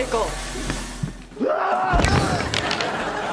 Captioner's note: screaming